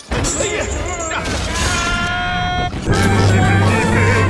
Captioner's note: both screaming